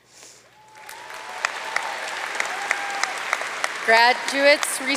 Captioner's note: audience cheering and applauding